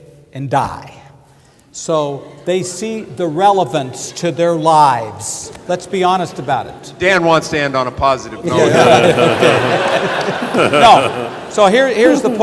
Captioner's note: laughter